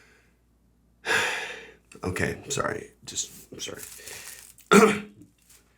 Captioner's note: deep sigh